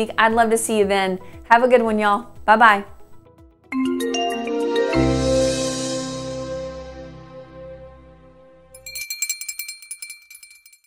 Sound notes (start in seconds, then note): 3.8 gentle music; 8.7 bell ringing